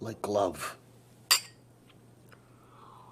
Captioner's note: clink